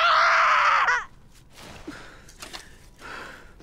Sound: heavy breathing

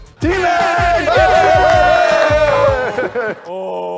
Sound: laugh and claps

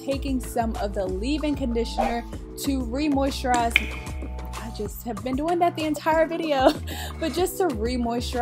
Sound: dropping noise

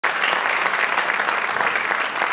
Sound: applause

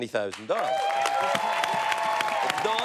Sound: cheers and applause

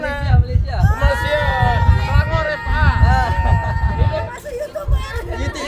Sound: cheer

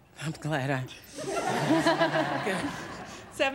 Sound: laughter

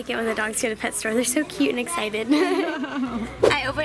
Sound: giggles

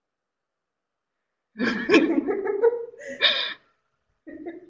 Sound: laughter

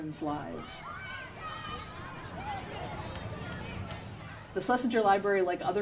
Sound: children squealing

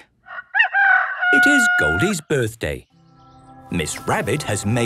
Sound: rooster crowing

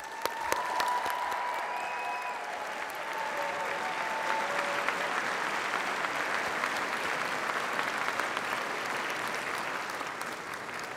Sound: applause and cheering

